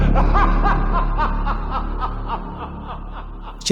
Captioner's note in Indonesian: tertawa